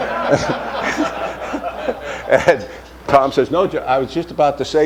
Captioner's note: laughter